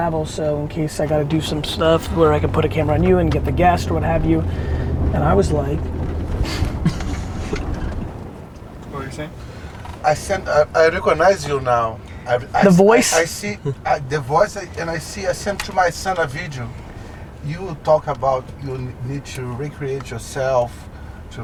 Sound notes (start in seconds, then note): 6.2 laughing